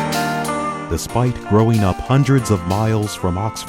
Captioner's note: voiceover